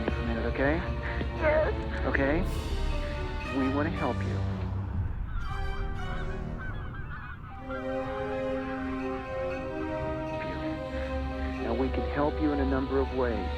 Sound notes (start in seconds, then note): 5.4 geese squawking; 7.5 dramatic music